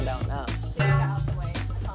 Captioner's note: gong ding